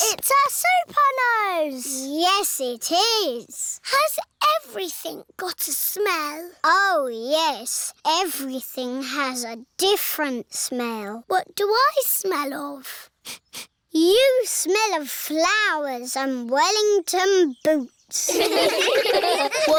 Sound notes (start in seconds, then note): 12.9 sniffs; 18.2 all giggle